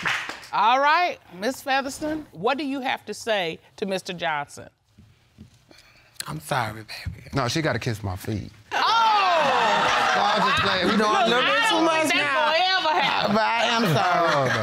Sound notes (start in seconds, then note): 8.7 all exclaiming